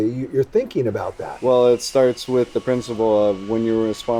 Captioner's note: none